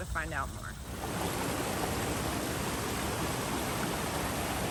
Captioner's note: water flowing